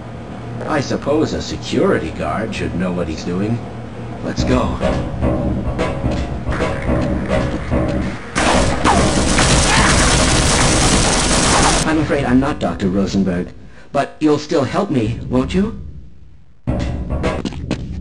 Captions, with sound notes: I /suppose/ a security guard... should know what he's doing. Let's go... [MP5 GUNFIRE ERUPTING] [MP5 GUNFIRE ERUPTING] STOP! [MP5 GUNFIRE ERUPTING] I'm afraid I'm not Dr. Rosenberg, but you'll still help me, won't you?